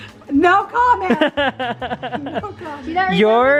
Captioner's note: laughs